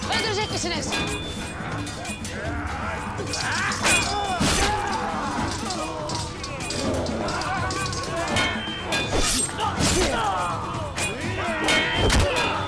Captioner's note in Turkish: Çarpışma sesleri